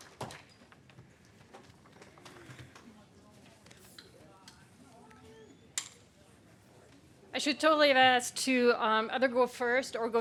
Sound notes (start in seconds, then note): 1.2 people chatting